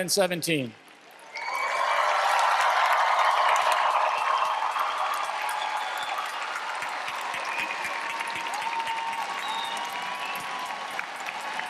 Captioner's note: applause